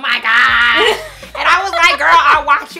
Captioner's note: laughs